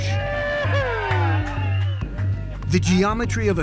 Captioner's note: people celebrating